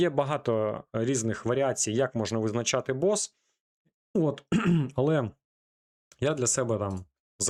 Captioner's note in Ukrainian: кашель; прочищення горла